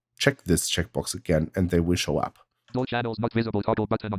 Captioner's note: automated voice